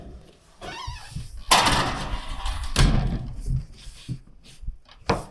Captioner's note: metal clanging